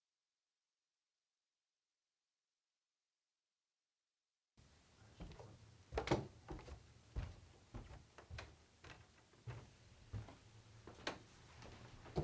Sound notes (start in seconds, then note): 5.8 footsteps walking down stairs